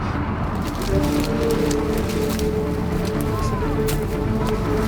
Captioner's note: branches cracking